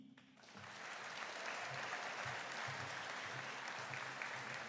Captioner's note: audience applauding